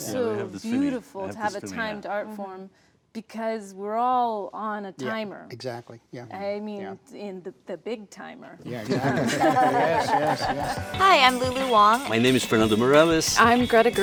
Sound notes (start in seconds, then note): 8.7 laughter; 11.2 upbeat music